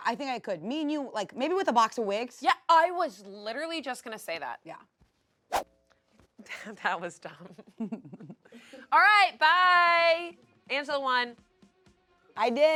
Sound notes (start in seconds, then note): 5.5 air whooshes; 7.3 laugh